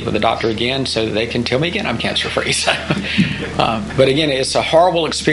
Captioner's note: laughing